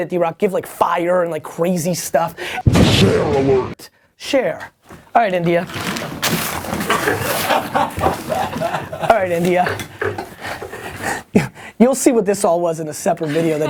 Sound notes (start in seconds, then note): 3.0 monster voice; 7.0 people laughing